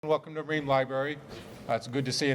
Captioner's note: voiceover